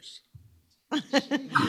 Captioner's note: laughter